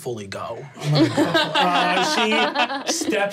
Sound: laughing

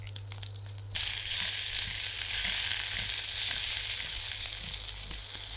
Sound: sizzling sound

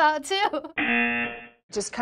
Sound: buzzer

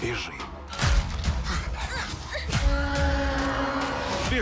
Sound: gasps; creatures roar

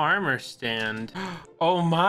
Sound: gasp

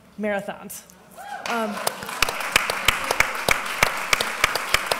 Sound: applause

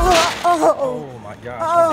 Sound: old woman groans

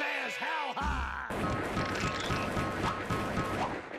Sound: gun firing

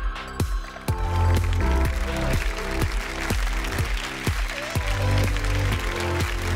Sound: applause

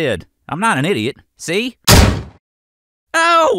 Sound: gunshot

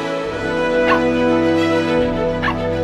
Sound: barking; barking

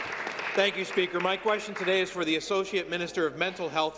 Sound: applause

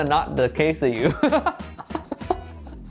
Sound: laughs

